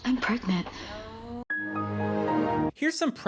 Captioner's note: Windows XP Shutdown sound